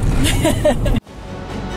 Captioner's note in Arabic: أمي تضحك; موسيقى أوركسترا متفائلة